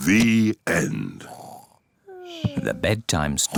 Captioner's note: both snore